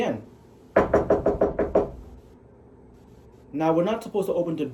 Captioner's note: knocking